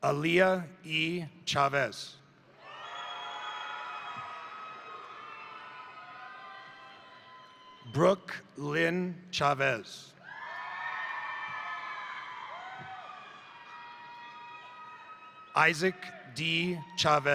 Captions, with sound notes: Aliyah E. Chavez, (crowd cheering) (crowd applauding) Brook Lynn Chavez, (crowd cheering) (crowd applauding) Izak D. Chavez,